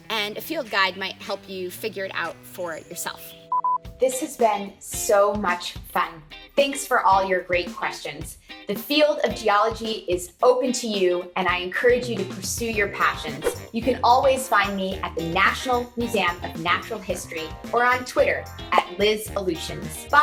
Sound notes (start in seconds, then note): 3.5 screen beeping